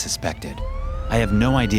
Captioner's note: siren blaring